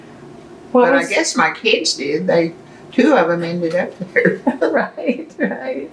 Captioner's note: laughter